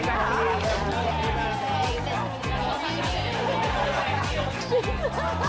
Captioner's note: people chattering; upbeat music